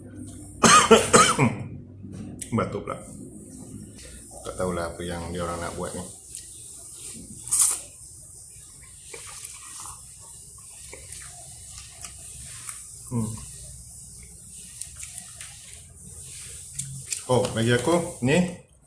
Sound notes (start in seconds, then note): 7.0 slurp SLURPPP; 8.4 chkup chkup SLURRRPPP